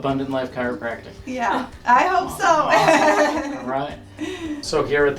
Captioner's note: laughs